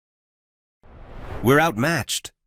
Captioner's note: transition whooshing